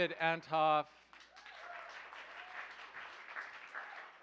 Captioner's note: cheers, applause